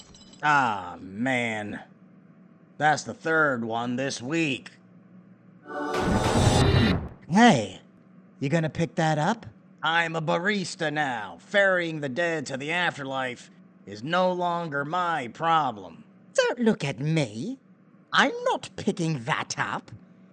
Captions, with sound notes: Aw, man. That's the third one this week. [heavenly and demonic explosions] Hey! Ya gonna pick that up? I'm a barista now. Ferrying the dead to the afterlife is no longer my problem. Don't look at me. I'm not picking that up.